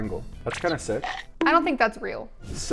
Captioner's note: bite crunching